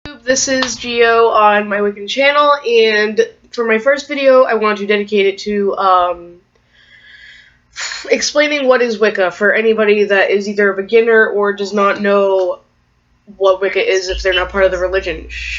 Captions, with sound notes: Hello Youtube, this is Gio on My Wiccan Channel, and for my first video, I want to dedicate it to um, (breathes) explaining what is Wicca for anyone that is a beginner or that does not know what Wicca is or they're not part of the religion.